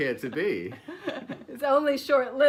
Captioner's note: laughing